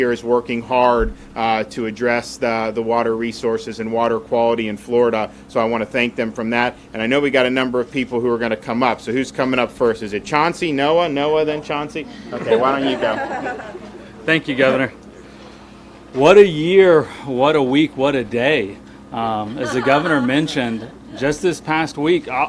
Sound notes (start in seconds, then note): 12.0 people laughing